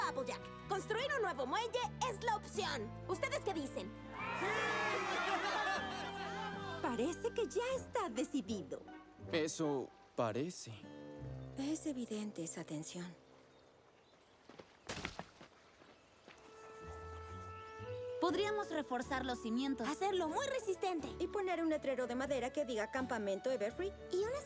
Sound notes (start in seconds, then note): 4.0 cheers